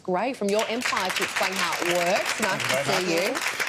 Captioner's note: audience applause